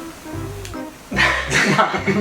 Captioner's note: laughs